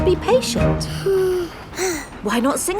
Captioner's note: both sigh